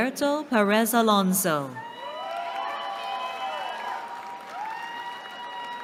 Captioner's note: cheering